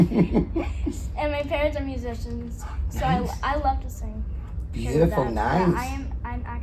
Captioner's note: laughs